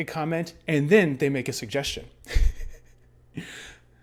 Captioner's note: chuckles